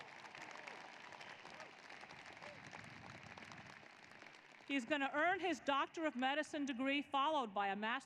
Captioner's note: applause